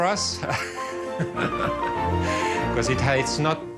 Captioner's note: laughing